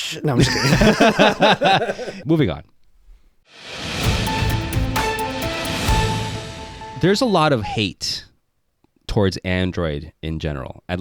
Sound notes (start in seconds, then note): 0.3 both laughing; 3.6 upbeat music